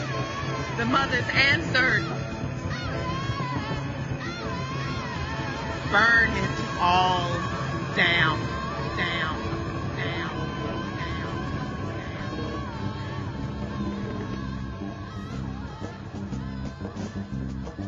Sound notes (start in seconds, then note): 9.1 echoes; 15.2 background music